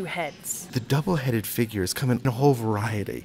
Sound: voiceover

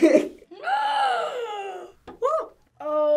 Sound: gasps

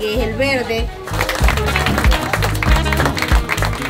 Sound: applause

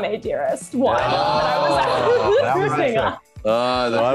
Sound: host laughs

